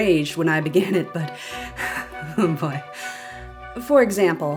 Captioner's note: inhale, angry chuckle; deep inhale